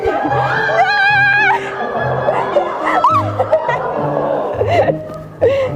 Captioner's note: squeals and laughs